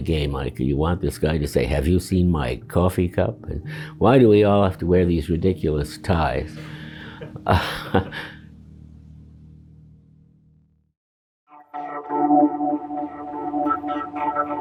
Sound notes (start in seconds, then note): 6.5 chuckles; 11.6 compelling music